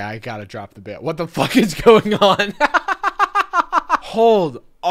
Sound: laughing

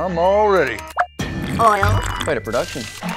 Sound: slurping

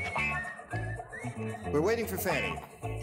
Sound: whistles

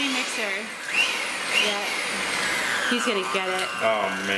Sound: mixer running

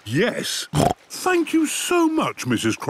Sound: snorts

